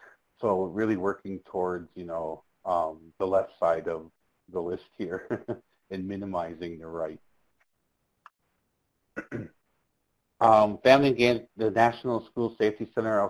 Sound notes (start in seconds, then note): 5.0 chuckles